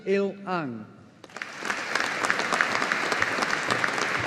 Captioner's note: audience applauding